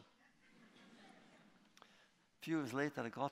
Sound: laughter

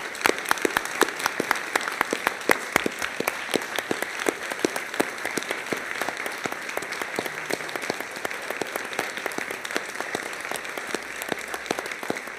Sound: applause

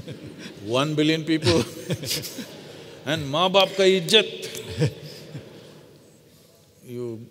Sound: laughter

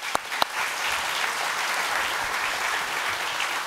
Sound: applause

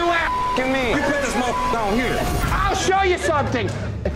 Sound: beep

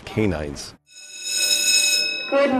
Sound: school bell ringing

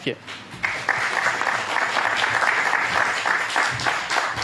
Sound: audience applauds

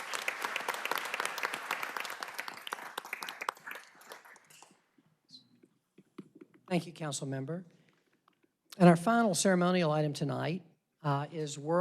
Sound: applause

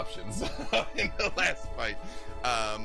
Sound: laughs

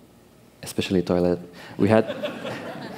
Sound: laughter

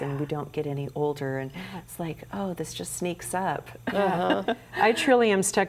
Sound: giggles

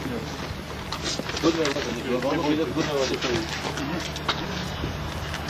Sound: men speaking foreign language

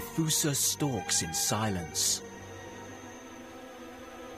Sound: lemurs whining

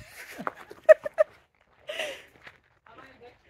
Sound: laughing

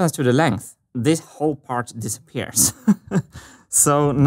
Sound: chuckles

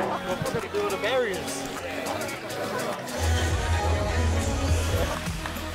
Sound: crowd chatter; crowd clapping

